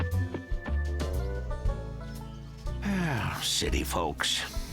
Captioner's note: sighs